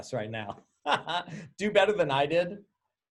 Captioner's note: laughing